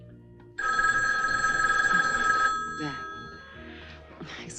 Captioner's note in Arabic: يرن الهاتف